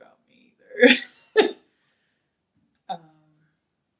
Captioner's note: laughing